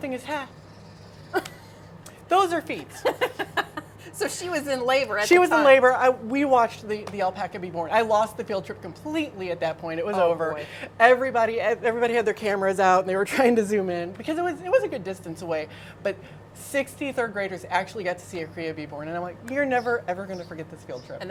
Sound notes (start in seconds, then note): 2.8 laughing